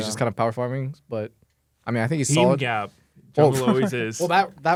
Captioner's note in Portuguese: risos